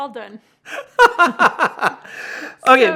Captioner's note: laughs